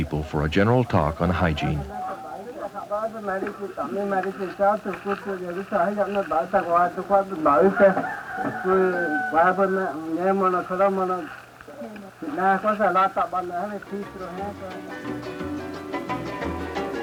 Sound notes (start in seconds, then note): 2.3 non-English speech; 7.3 rooster crows; 10.2 non-English speech; 13.8 Latin music